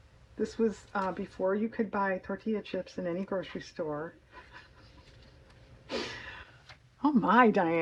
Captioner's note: laughs